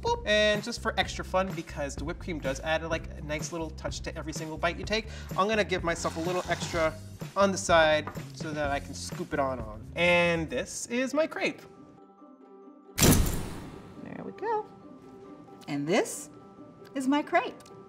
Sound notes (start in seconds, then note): 13.0 door slams